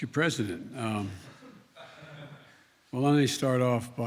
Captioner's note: laughter